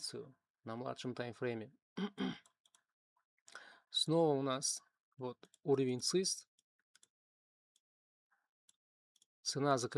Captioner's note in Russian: кашель